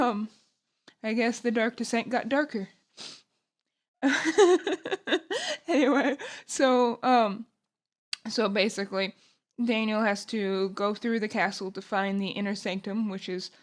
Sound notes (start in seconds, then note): 4.1 laughing